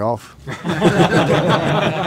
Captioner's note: laughs